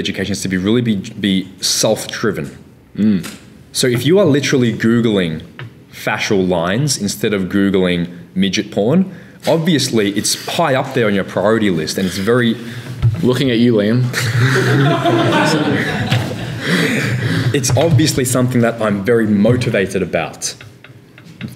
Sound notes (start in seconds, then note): 14.1 laughing